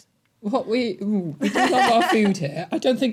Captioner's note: laughing